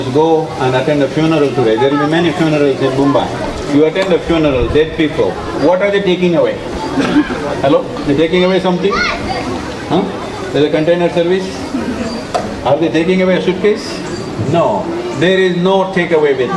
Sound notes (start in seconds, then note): 2.0 cheering/Applause; 3.0 laughs; 6.6 speaker laughs